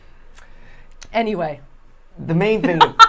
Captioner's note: laughing